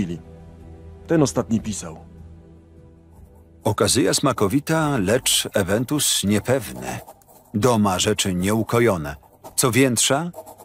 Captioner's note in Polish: Lektor